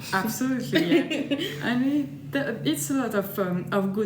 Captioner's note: laughs